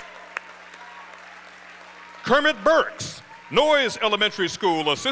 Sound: applause

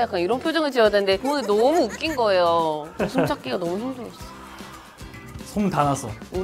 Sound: Hae-neul was laughing alone in the background

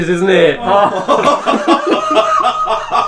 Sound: laughing

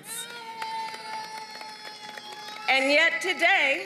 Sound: applause

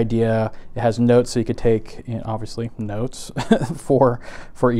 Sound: laughs

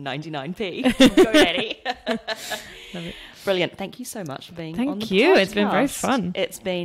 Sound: laughs

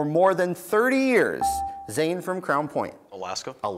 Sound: buzzer beeps

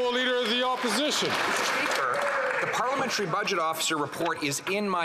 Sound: some Applause

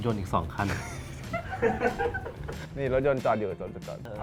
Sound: laugh; laughs

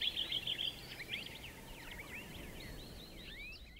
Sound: birds chirps

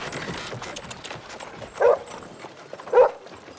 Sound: dog barking

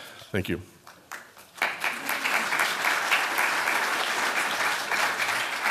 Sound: applause

